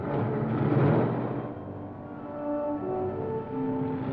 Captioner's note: car rumbling away